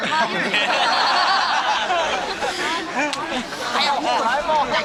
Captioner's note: laughing